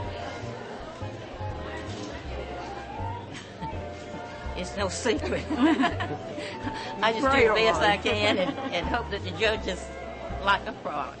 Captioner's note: laughter